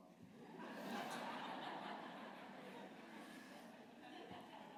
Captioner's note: laughter